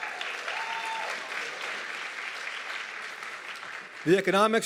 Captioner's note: audience clapping and cheering